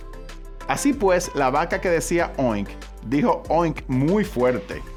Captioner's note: speaking Spanish